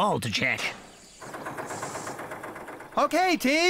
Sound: engine Running

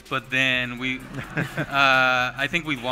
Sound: laughter

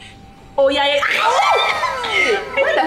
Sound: screams

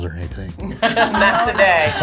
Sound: laugh

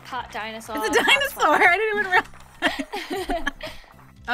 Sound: laughs

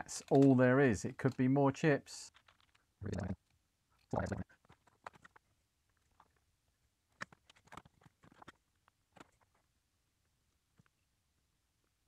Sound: silence

